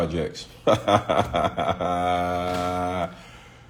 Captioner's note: laughs